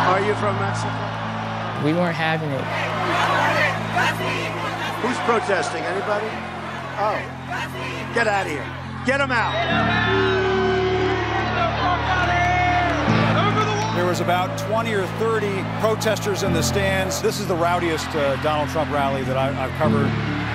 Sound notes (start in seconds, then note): 3.9 crowd protesting; 10.6 crowd